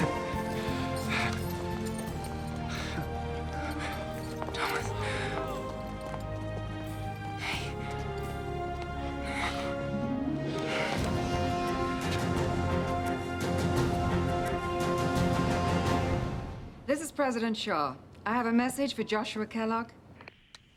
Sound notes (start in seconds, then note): 4.9 whispers